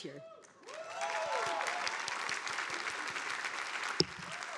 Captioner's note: audience applauding